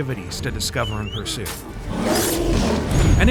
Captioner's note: bear roars